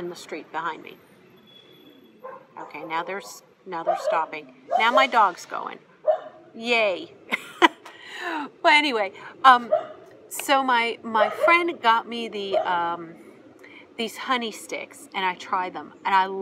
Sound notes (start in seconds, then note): 7.2 laughs